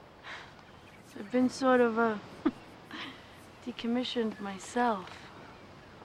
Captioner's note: chuckles